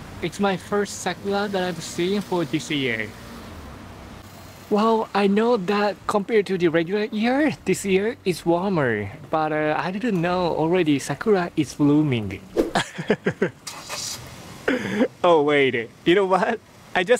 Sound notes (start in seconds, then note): 12.7 laughs